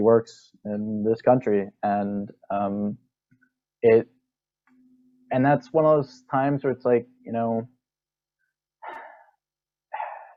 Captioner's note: breath, breath